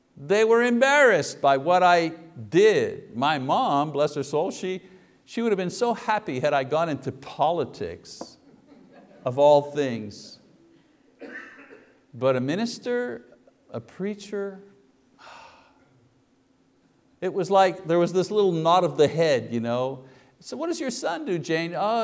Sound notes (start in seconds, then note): 15.2 sighs